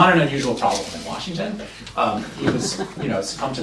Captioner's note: laughter